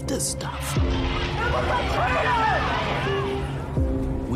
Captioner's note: crowd yelling